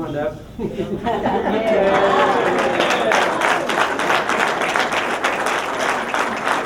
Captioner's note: applause